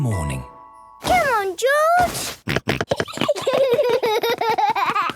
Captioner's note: George snorting; both giggling; George laughing